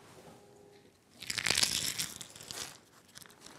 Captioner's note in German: Rascheln